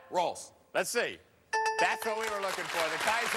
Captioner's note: bell rings